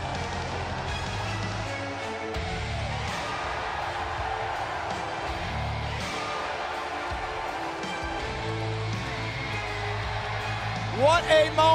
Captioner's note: cheers and applause